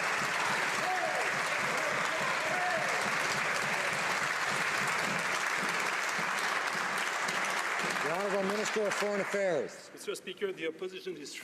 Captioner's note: some Applause